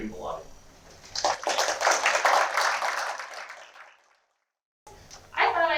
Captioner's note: applause